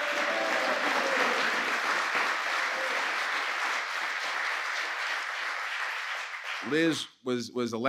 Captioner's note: applause